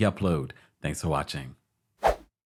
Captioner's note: screen whooshes